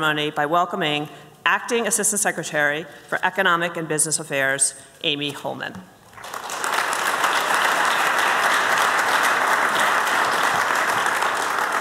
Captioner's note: applause